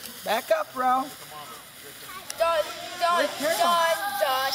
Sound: sizzling

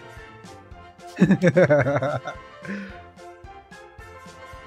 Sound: laughs

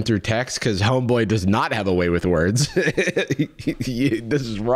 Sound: chuckles

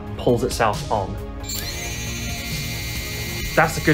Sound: motors spinning

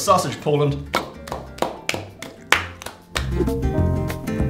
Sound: clapping

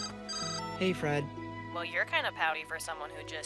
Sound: cell phone ringing

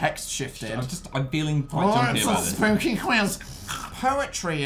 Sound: snort

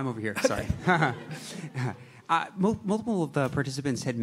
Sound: laughter

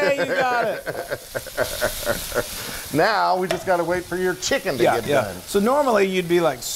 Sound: laugh

